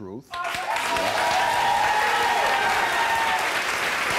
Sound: audience applauds

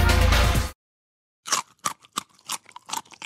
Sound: crunching food

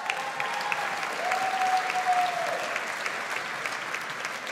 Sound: audience applauds

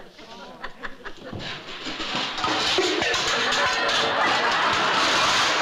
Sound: plates clattering

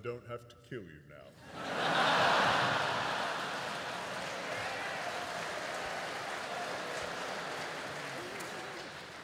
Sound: applause

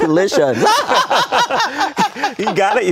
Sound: laughter

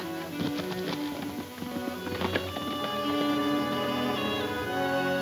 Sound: horses galloping

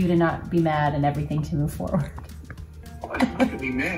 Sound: laughing

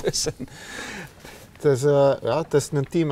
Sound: chuckles

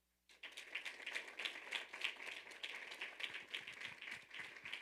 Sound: audience applauding

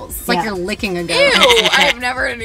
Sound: goat bleating

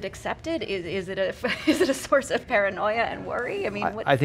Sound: chuckles

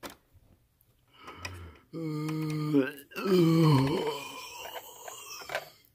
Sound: yawning

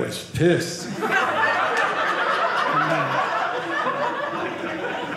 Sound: audience laughing

